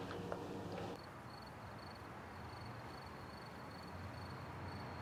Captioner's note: crickets chirping